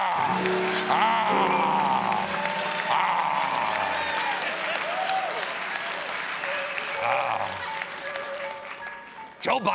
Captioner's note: applause; growls